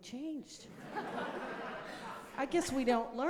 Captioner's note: audience laughing